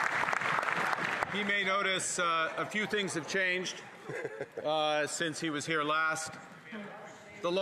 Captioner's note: some Applause